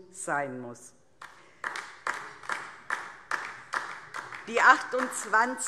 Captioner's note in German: Beifall DIE LINKE